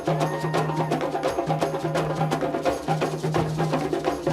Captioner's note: woman cheering